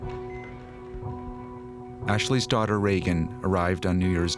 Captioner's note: equipment beeping